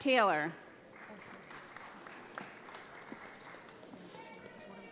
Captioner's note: audience applauds